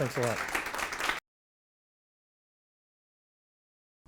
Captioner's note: audience applauding